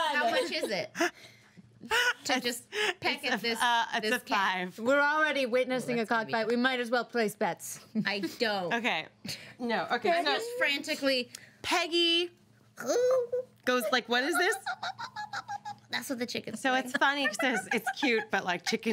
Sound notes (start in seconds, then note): 15.6 girl making chicken sounds